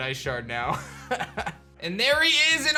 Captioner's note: laughs